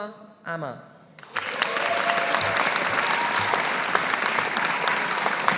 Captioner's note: audience applauding